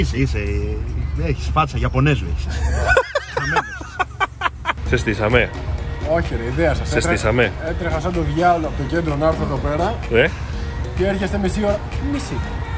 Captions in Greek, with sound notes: Είσαι, είσαι. Έχεις φάτσα γιαπωνέζου. [γέλια] Κ -Σε στήσαμε; - Όχι ρε, η ιδέα σας. Έτρεχα σαν το διάολο από το κέντρο να έρθω εδώ πέρα Κ -Ναι; - και έρχεστε μισή ώρα... τι μισή;